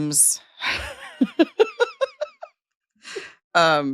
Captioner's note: laughing